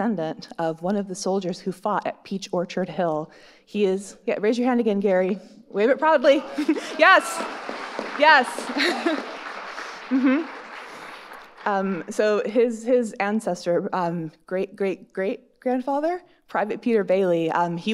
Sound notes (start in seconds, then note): 6.5 chuckles; 6.8 audience cheering and applauding